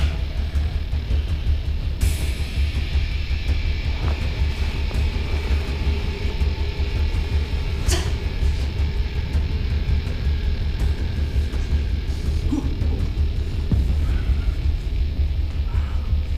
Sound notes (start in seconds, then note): 4.5 whooshing